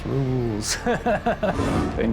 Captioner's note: laughs